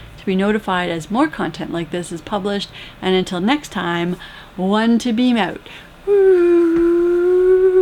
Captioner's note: whooo